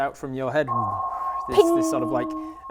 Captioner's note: sonar